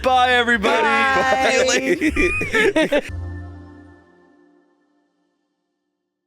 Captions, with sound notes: - Bye everybody. - Bye! - See you later. (all laughing) (light music)